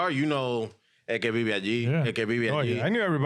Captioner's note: speaking In Foreign Language